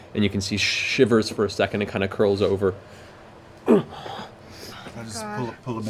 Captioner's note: pained grunt